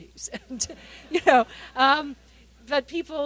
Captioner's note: laughter